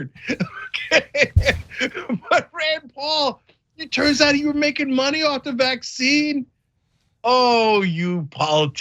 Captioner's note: laugh